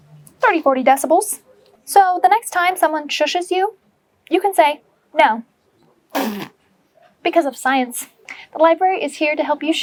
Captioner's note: blows raspberry